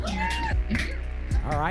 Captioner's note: cheering